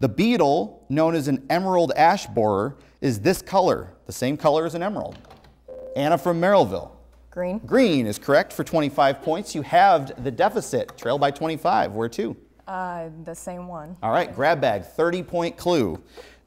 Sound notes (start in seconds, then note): 5.7 buzzer